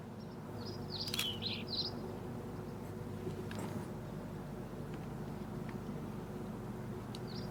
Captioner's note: birds continue chirping; camera clicking